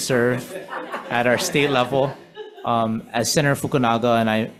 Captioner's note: members laughing